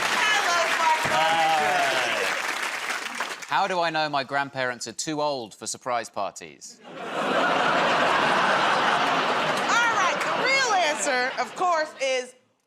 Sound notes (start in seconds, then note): 6.8 laughter